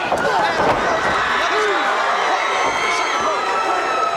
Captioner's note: audience cheers